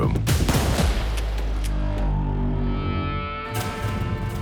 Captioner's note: gun shot